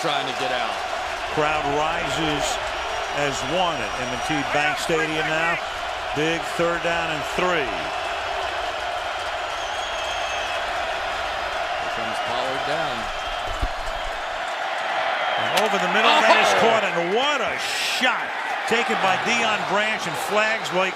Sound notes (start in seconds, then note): 8.3 crowd cheering